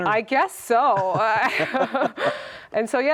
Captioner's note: laugh